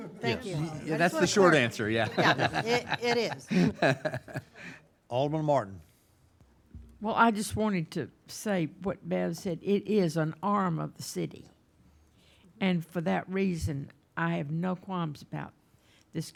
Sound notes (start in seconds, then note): 0.0 laughing